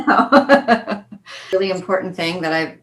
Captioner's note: laughing